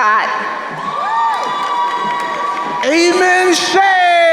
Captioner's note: crowd cheering